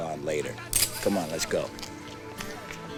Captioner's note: gun clicks